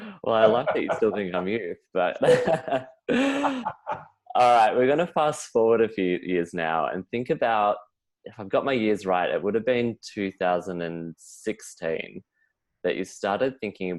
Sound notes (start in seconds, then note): 1.9 both laughing